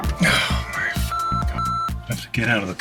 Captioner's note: grunting; beep